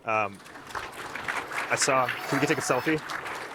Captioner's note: audience applauding